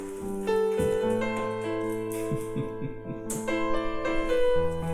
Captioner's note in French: subtle laughter